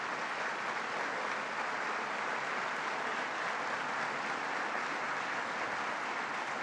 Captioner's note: applause